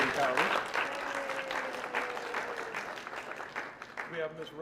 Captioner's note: applause